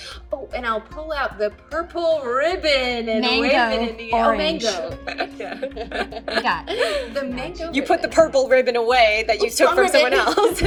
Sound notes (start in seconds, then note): 4.3 laughing